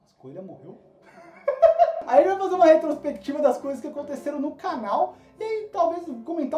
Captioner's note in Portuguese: Risada